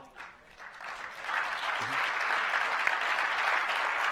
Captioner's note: applause